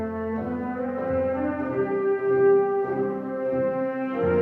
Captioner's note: none